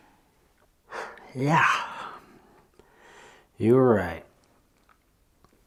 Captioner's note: scoffs